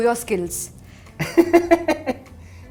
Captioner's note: laughing